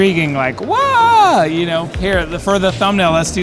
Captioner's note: exclaims